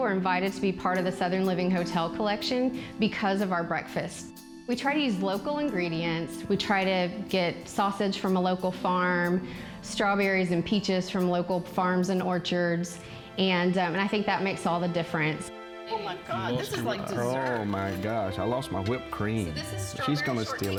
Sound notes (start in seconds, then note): 16.6 laugh